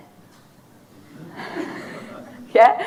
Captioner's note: audience laughing